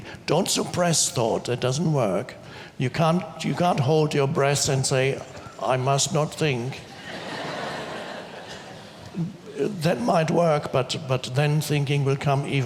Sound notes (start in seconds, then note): 6.9 audience laughs